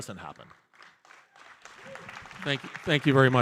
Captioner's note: audience applauding